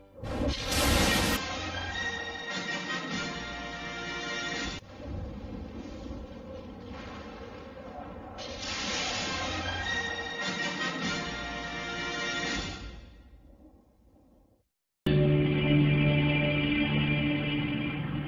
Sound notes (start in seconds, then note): 0.2 lightning crashing down as rousing fanfare plays; 4.8 thunders rumbling; 8.4 lightning crashing down as rousing fanfare plays; 15.1 snippeted music plays on TV